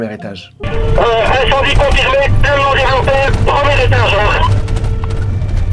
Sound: radio

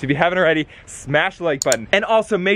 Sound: mouse clicking

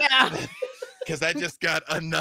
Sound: laughing

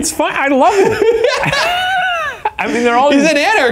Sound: laughing

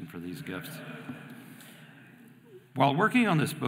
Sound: audience laughing

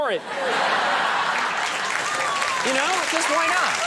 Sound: audience applauding

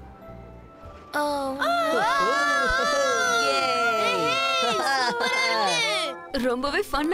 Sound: screaming Continues

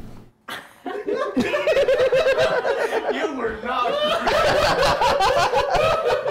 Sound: laughing

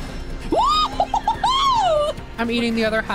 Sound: jubilant Yelping

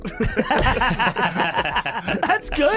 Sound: laughter

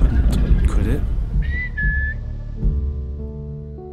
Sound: whistle

